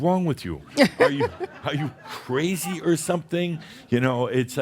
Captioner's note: some laughter